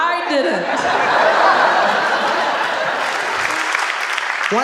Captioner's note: audience laughing; audience applauding